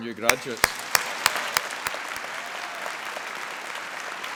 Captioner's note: applause